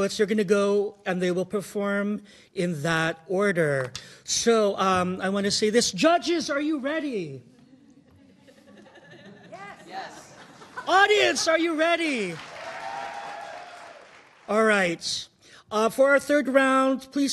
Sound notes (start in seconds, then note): 12.3 audience cheering